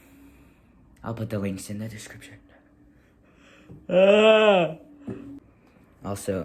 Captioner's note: yawning noises